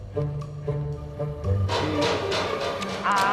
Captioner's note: sound of metal